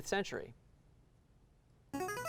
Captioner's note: ring-in sound